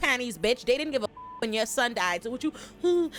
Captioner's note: beep